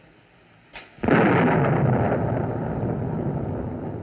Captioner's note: thunderclap